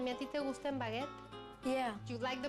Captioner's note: speaking spanish